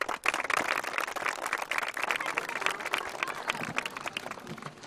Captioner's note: children applaud